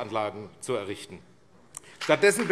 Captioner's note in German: Beifall AfD